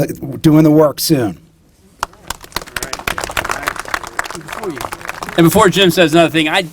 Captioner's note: applause